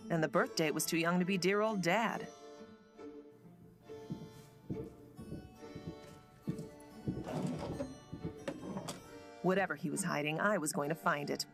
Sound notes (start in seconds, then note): 3.8 footsteps pattering